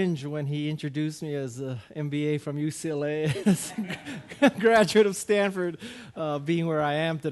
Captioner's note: laughing